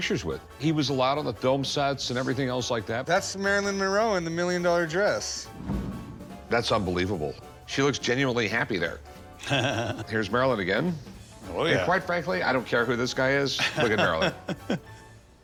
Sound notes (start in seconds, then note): 9.4 laughs